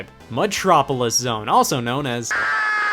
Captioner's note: screams